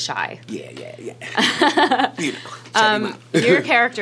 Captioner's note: laughing